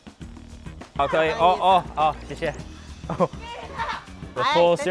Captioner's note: speaking Mandarin